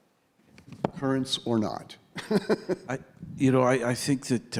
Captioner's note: laughing